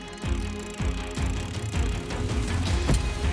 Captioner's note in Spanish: Ruido al caer granada